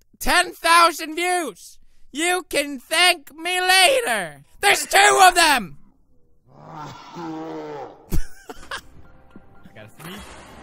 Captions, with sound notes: 10,000 VIEWS! YoU cAn ThAnK mE lAtEr :D THERE'S TWO OF THEM!! *poodipie sneeze* *laugh*